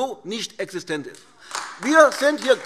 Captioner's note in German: Beifall AfD - Zuruf: Oh!